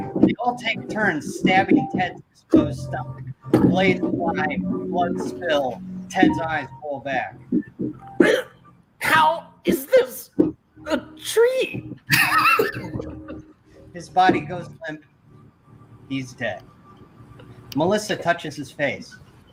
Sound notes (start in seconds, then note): 12.1 laughter off-screen